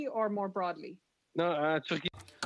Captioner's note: speaking French